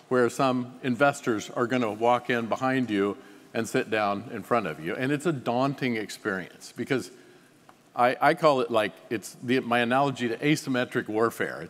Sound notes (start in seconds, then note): none